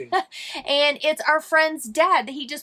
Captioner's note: laughing